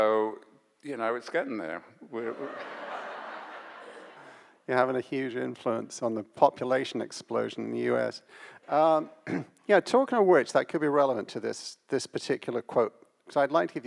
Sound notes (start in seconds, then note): 2.2 audience laughs